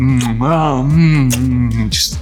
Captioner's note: makes kissing sounds